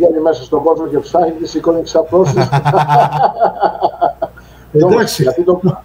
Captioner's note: γέλια